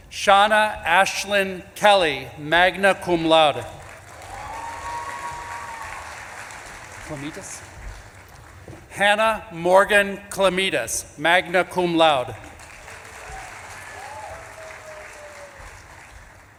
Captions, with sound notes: Seana Aislyn Kelly, magna cum laude. (audience claps and cheers) Kilmetis? Hannah Morgan Kilmetis, magna cum laude. (audience claps and cheers)